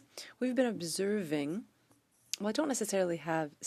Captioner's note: speaking French